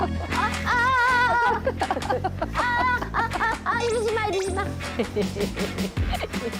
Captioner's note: laughs